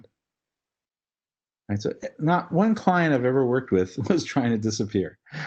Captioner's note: laugh